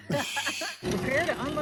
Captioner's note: laughing